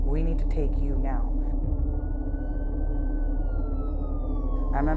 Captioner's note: siren wailing